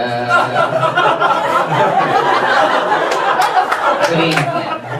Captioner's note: audience laughs